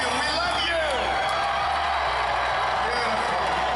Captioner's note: cheers